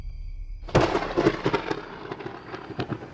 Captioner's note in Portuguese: trovões